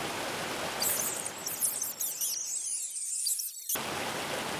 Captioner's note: squeaks